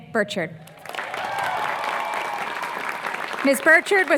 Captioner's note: applause